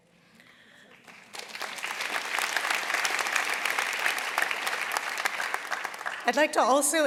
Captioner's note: applause